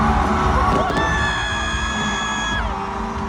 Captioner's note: screams